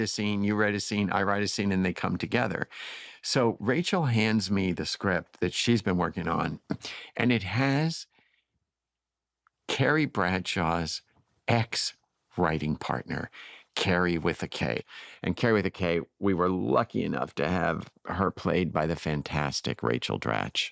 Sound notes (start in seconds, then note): none